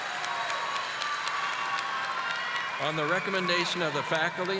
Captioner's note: audience applauding